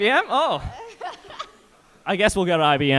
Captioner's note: participant laughing